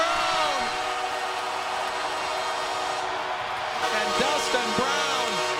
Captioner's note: horn blares